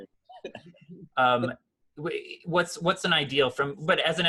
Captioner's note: laughs